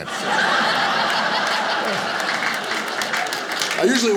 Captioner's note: audience laughing